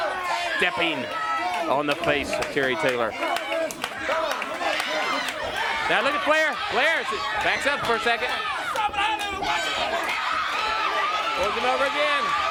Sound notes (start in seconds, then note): 2.8 crowd chatter; 7.4 crowd chatter; 10.5 crowd chatter